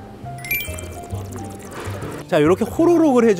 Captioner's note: gulping sound